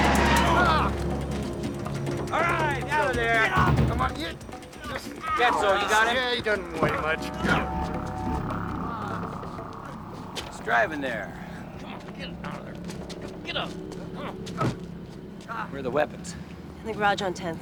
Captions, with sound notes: getting you two beautiful kids together. (laughing) You know, bubba, normally I'd be highly suspicious, but, this time, you might have just knocked one out of the park. I'll start working on my toast. Speaking of toast.